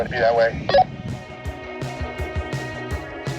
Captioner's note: walkie talkie blip